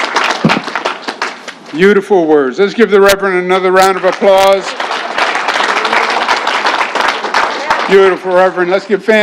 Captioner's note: applause